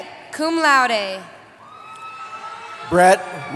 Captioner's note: cheering